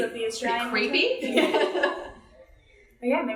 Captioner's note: laughs